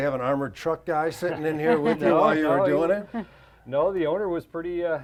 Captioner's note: laughs